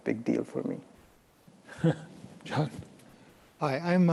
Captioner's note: chuckles